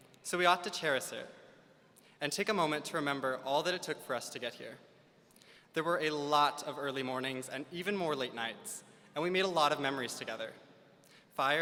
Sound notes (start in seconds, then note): none